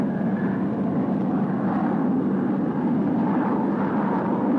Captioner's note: wind whooshing